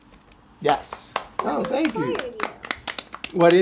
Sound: applause

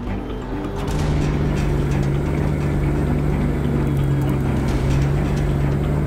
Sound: dramatic music; truck engine roaring

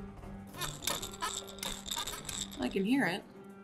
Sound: rattle squeaking

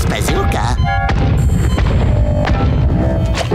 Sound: thudding

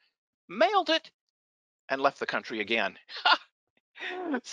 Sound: laughs

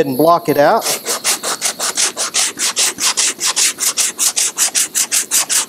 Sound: sharp scratching sounds

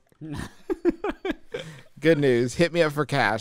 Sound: laughs

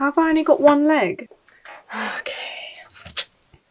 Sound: sigh

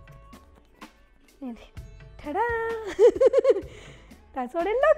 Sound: laughs

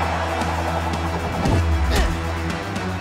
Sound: crowd cheering; grunting

